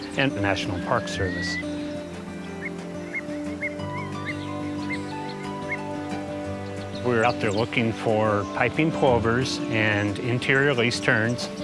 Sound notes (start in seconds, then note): 2.5 birds calling